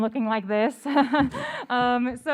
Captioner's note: laughter